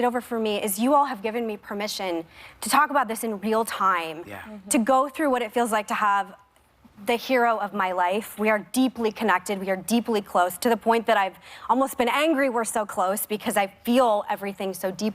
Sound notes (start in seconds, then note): none